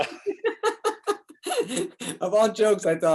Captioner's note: both laugh